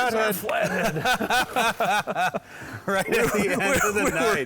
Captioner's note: men laughing